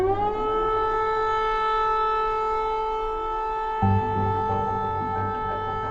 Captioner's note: air raid warning